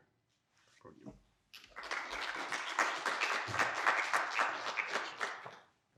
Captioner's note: audience applauding